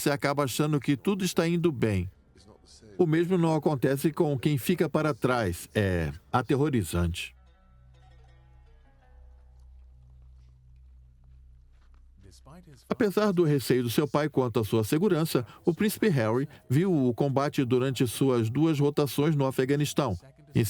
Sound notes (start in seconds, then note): 7.3 slow string music; 12.1 voiceover